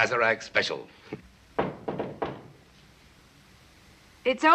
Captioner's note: knocking at door